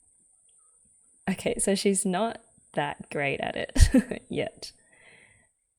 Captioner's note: laughs